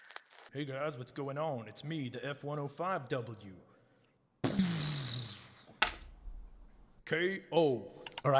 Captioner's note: blasting Sound